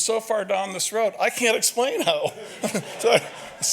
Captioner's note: audience laughs